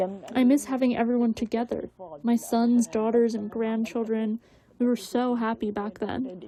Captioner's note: through translator